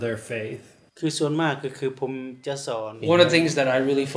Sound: speaks in foreign language

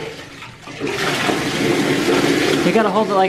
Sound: running water

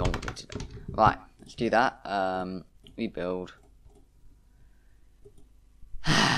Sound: sigh

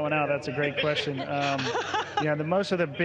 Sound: laughs

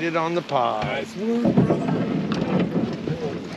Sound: clattering

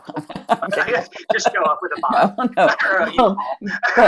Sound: laughter

